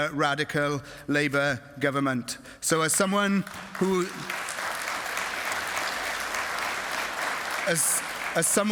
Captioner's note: applause